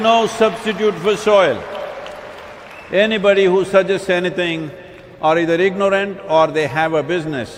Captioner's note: applause